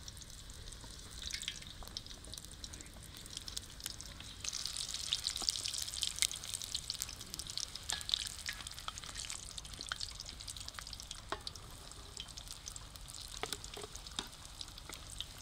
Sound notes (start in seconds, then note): 4.5 sizzling sound